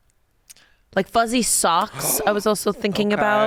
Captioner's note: gasps